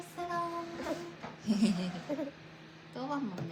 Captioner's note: big laugh